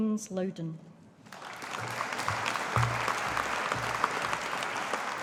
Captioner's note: audience applauding